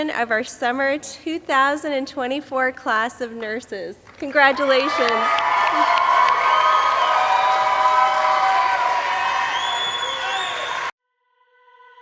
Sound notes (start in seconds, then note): 5.7 audience applauding and cheering